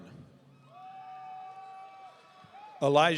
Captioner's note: audience cheering